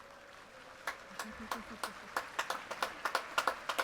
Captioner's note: applause